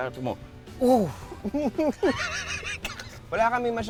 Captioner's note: both laughing